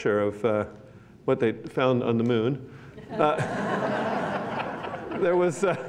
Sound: laughter

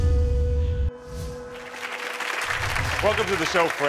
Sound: audience applauding

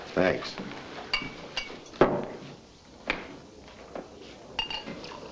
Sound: glasses clinking

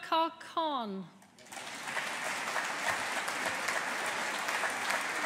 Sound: audience applauding

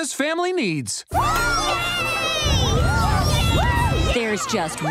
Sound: cheering

